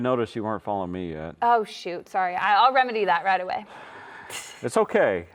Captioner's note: laughs